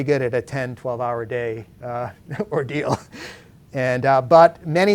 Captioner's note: laughs